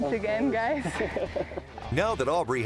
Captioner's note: laughs